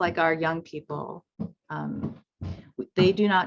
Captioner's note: footsteps plodding